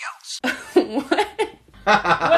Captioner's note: laughing